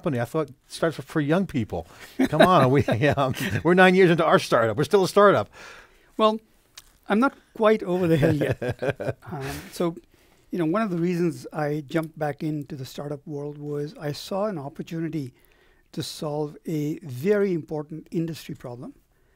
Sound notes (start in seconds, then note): 2.0 laughs; 7.9 laughs